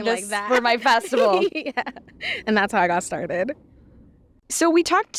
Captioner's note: laughs